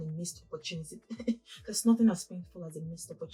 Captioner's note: chuckles